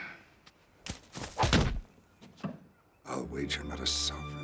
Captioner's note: thudding